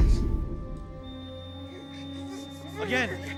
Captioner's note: monitor beeping continuously